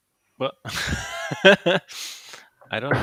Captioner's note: laughing